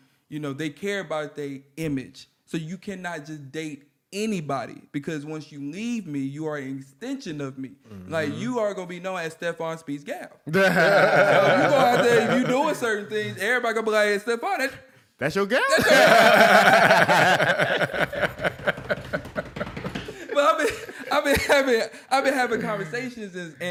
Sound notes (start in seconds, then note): 10.5 laughter; 15.6 laughter